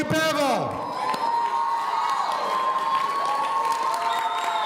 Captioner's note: audience cheering